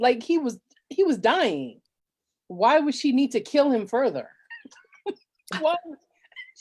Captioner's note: laughs